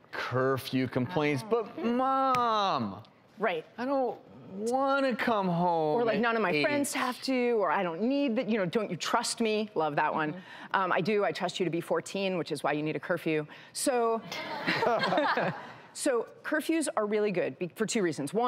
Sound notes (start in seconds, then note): 14.4 audience laughs